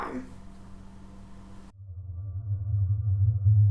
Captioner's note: hummmmmm